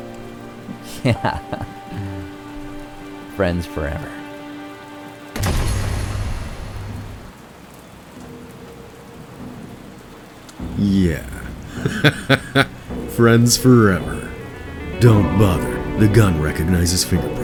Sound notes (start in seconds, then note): 0.7 laughing; 5.3 gunshot blasting; 10.8 laughing